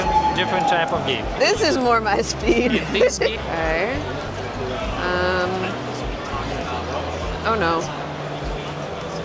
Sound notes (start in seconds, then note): 2.2 laughs